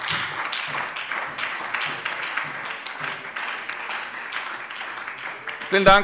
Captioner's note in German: Beifall SPD